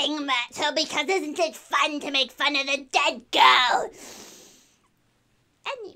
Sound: deep breath

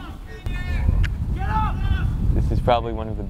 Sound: players talking and yelling

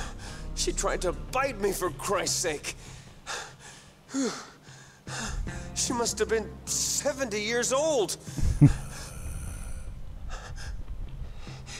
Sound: exhausted panting; low male growling in background

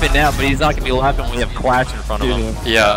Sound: laughs

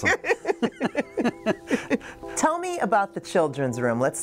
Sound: man and woman laugh

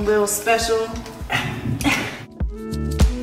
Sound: grunting; upbeat music playing

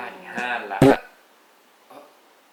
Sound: fart sound

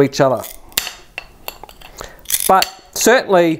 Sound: snapping

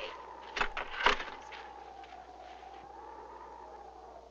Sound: wind blowing

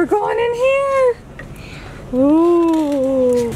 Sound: gasps

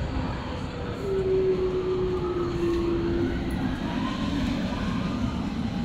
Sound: werewolf noises

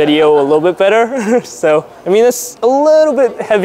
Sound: laughs

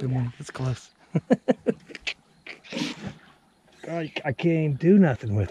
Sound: chuckling

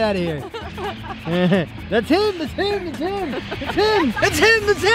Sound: laughing

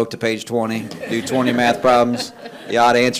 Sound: attendees laughing

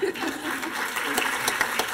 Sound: applause

